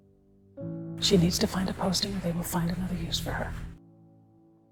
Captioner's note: voiceover